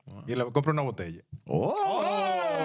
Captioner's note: speaking In Spanish